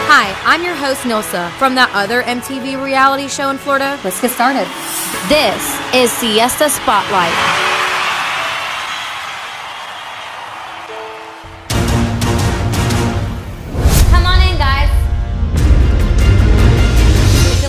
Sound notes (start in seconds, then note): 8.0 crowd cheering; 10.9 dramatic music